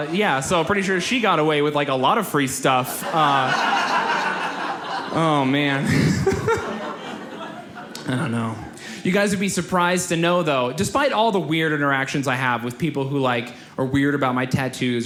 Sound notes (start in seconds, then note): 2.7 audience laughs; 6.7 laughs